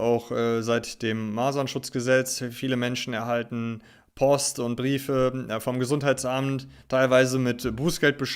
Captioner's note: German